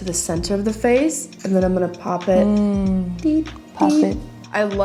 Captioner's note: tiny beeps